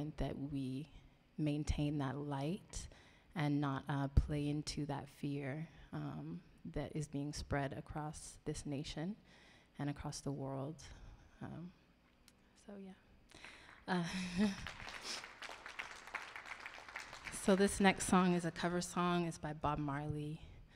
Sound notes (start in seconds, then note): 14.0 laughing; 15.5 audience applauding